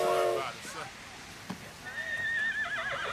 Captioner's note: horse Neighs